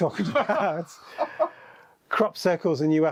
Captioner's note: guy laughs